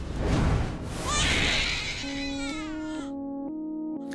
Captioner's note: baby crying